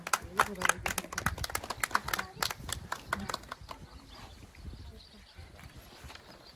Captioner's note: clapping